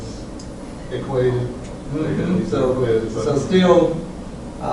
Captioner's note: faint speaking by student